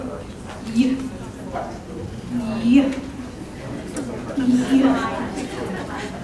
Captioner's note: teacher imitating /y/ sounds